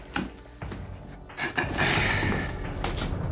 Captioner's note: clearing his throat